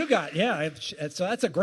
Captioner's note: applause